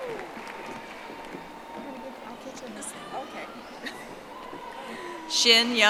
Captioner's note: audience applauding